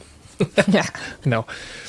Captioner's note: laughs